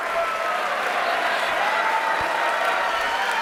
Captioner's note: cheering; applause